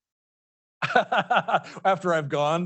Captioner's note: laughing